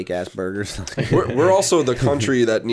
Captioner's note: laughter